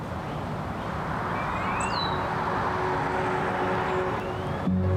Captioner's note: vehicle engine whirring; gentle music